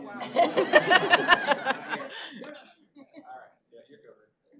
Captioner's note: laughing